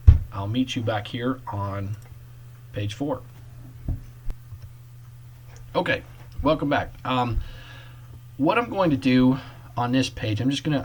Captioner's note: click